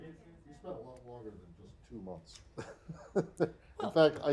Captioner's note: laughter